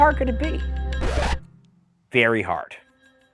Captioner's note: record scratches